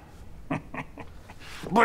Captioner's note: chuckles